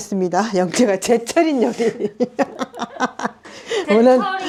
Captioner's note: haha